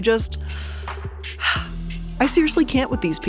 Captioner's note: sighs